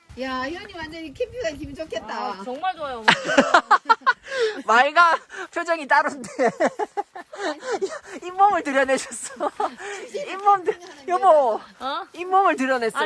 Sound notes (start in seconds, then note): 3.0 laughing; 3.3 soul less voice tone